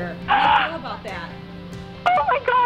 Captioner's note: screaming on phone